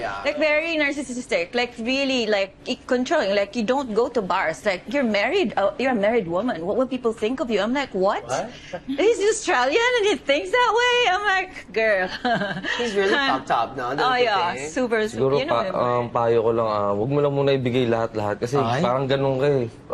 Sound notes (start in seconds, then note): 12.2 laughs